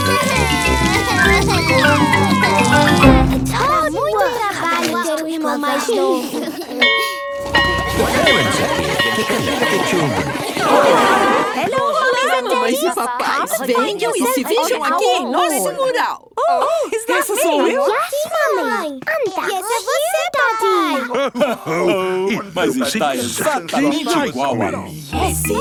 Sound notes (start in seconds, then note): 0.1 crying; 5.9 giggles; 6.9 bell ringing